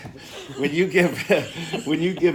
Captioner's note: laughter